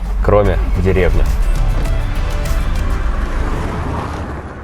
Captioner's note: starting engine